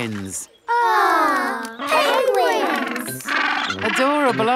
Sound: penguins chatter

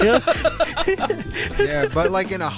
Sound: group laughing

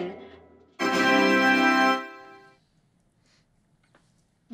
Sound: victory horn

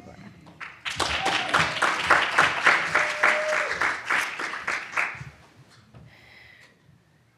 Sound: audience claps; audience cheers

